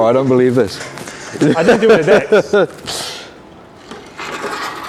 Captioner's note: laughs